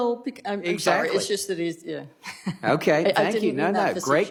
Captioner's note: laughter